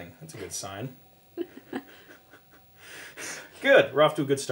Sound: laughing

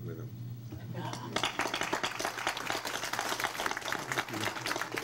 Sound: crowd applauds

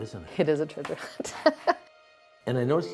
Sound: laughs

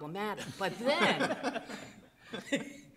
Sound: group laughing

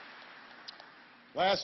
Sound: applause

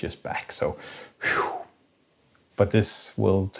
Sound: sighs in relief

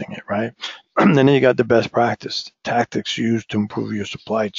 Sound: cough

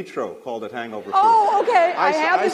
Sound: laughter

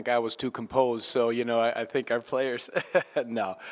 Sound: laughter

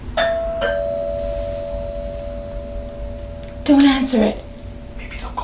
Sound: doorbell rings

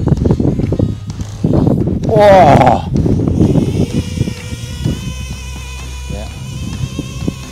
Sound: motor sound

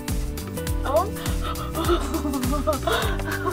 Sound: laughing

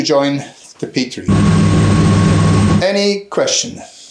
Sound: plane engine rumbling

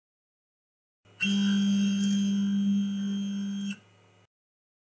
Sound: buzzing

